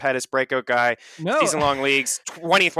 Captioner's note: laughs